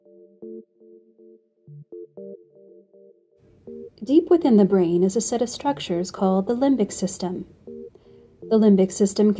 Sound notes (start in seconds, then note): 3.9 female announcer speaking